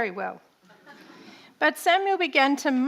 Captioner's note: audience laughing